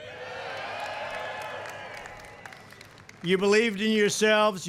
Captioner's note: applause